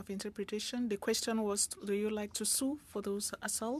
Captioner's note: speaking French